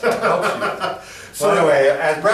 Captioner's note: laughing